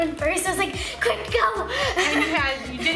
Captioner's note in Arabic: يضحك